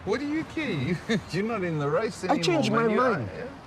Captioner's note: chuckles